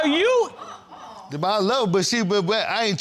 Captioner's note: audience gasps; stutters